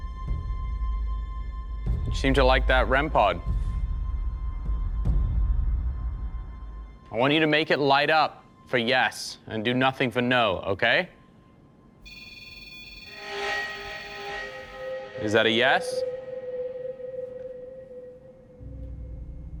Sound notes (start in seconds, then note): 3.4 ominous music; 12.0 beeping; 16.3 ominous music